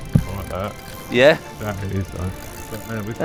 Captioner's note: laughing